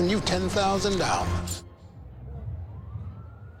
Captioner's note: siren